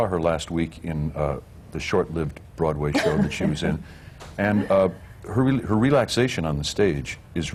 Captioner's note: laughs